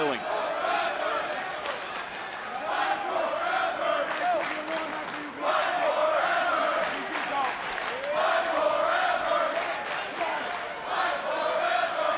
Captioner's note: crowd chanting "fight forever"